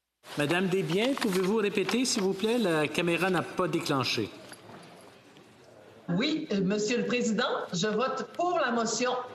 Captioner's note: speaking French